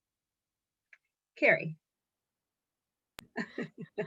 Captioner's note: laughs